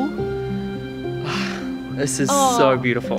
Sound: sighs

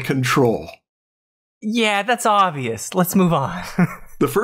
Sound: chuckles

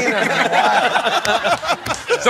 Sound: laughter

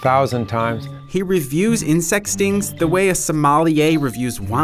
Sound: voiceover

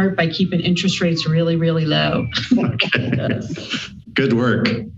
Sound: laughs

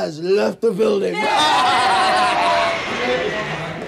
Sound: everyone shouts

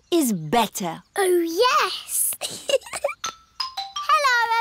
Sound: giggles

